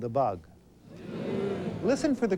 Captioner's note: crowd groans